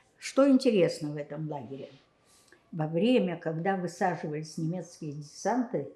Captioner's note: none